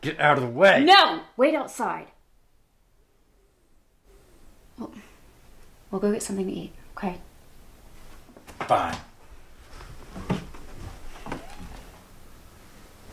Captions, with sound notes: Get out of the way! No! Wait outside. We'll go get something to eat, okay. Fine. (door opens)